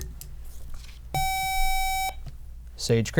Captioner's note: buzzer